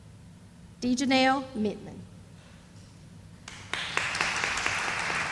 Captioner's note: sound of applause